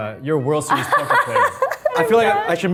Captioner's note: Arden laughs